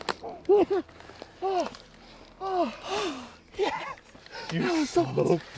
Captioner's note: hunters gasp